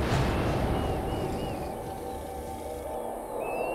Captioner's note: Growling